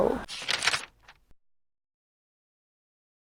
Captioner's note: shuffling